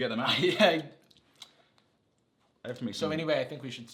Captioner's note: laughs